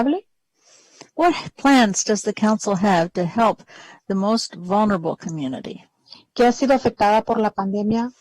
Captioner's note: speaking spanish